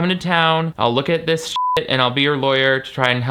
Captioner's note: beep